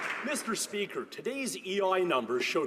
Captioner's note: applause